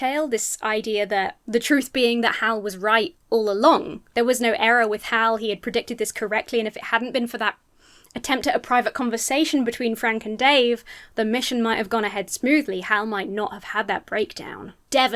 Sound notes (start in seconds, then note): none